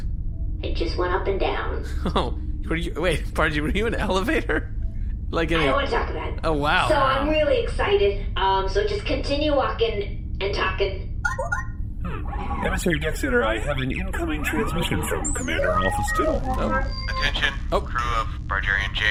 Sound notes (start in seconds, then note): 1.8 laughing; 12.0 incoming-transmission noise; 17.1 transmission-start noise